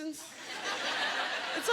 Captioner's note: laughter